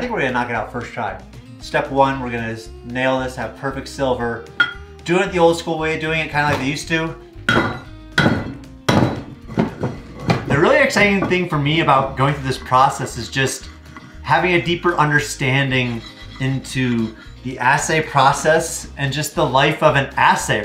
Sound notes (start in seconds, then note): 8.1 hammer banging